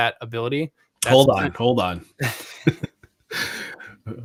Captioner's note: laughs